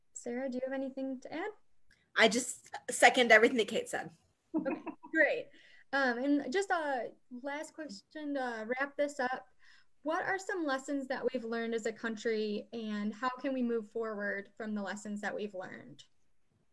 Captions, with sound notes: Sarah, do you have anything to add? - I just second everything that Kate said. (laughing) - Okay, great. Just last question, to wrap this up. What are some lessons that we've learned as a country, and how can we move forward, from the lessons that we've learned?